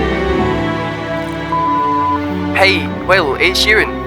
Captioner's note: phone beeping